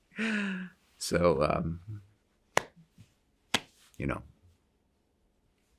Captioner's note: hands clap